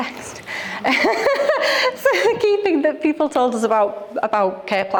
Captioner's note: laughing